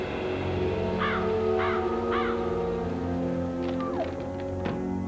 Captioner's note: crow cawing; whines